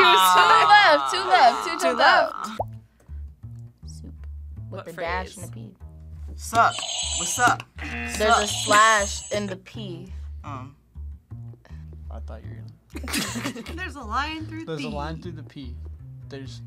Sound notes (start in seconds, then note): 8.0 buzzer; 8.1 buzzer rings